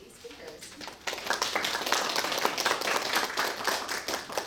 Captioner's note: audience clapping